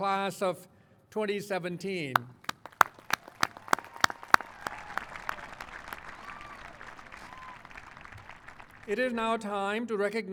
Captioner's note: applause